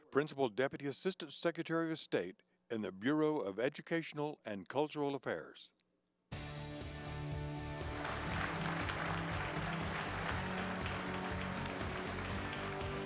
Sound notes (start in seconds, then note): 6.3 upbeat music; 7.8 audience applauds